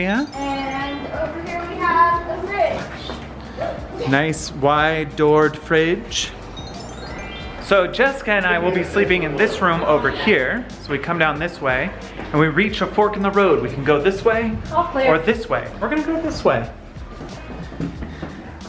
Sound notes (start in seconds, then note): 6.2 magical twinkling